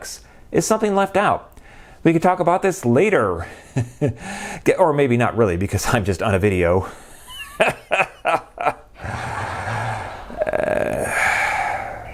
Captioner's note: laughter